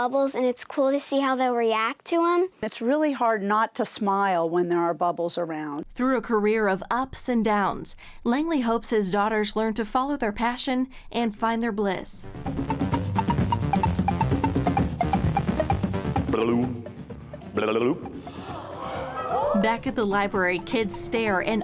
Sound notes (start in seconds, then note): 12.4 upbeat synthesizer music; 18.1 gasps